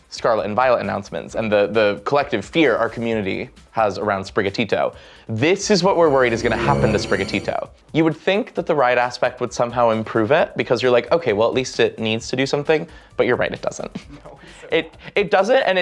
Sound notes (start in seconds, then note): 5.8 danger noise